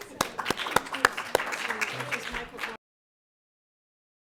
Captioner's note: applause